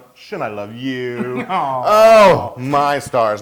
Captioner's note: laugh